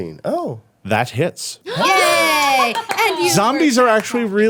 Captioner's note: everyone cheering